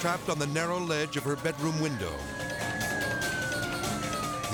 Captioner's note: siren wailing